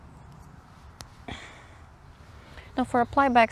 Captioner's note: yarn snaps and I grunt